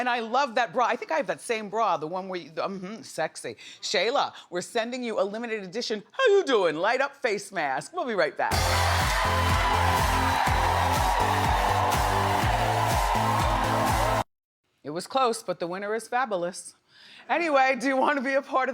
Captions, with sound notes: And I love that bra, I think I have that same bra, the one where mm hmm, it's sexy. Shayla, we're sending you a limited edition how you doin' light up face mask. We'll be right back. (energetic music) (audience cheering) It was close but the winner is Fabolous. Anyway, do you wanna be a part of the fun?